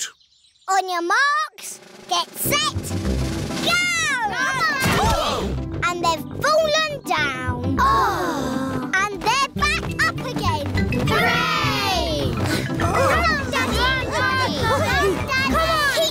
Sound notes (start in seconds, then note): 5.1 all groan